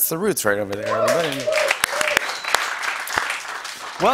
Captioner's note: cheers and applause